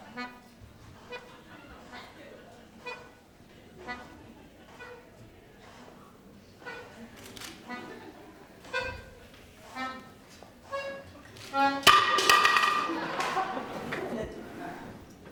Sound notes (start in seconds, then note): 11.8 banging